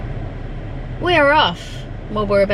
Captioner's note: air conditioning fan noise